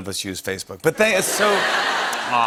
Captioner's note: laughter